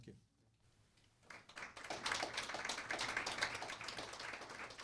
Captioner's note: applause